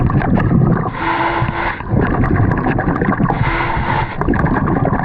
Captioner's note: loud breathing; bubbles gurgling